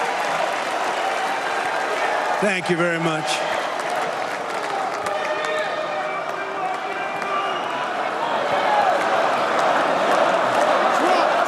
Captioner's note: cheers and applause